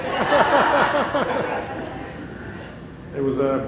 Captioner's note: laughter